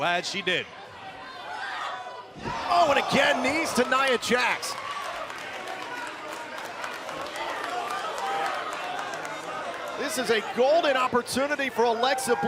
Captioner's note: crowd cheering